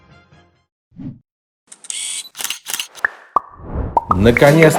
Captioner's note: camera clicks